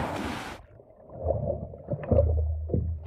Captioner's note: water rushing